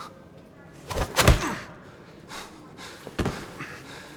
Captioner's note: chuckle; groan